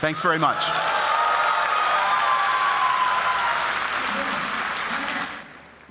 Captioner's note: applause